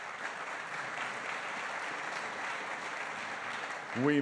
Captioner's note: applause